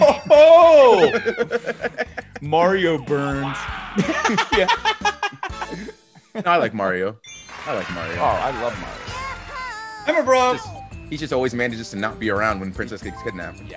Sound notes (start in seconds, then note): 0.8 laugh; 3.4 laugh